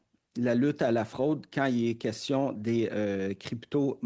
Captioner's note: speaking in French